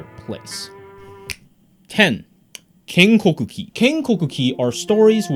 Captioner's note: fingers snap